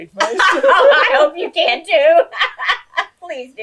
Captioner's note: laughs